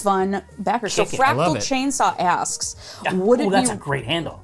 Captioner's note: exclamations